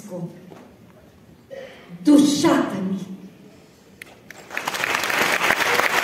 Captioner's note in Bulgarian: аплодисменти